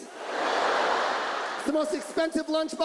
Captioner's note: audience laughs